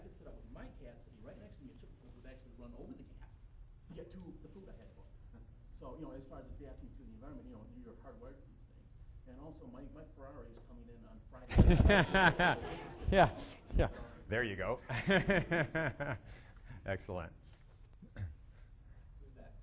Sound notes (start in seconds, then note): 11.5 all laughing; 15.9 laughing